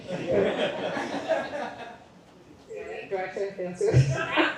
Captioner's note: laughter